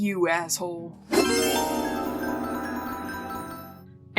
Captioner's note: twinkly magical Ta Da! sounds